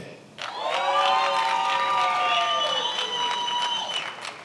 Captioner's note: attendees applauding